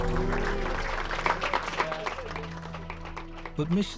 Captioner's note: applause